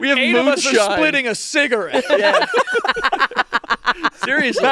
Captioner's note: everyone laughing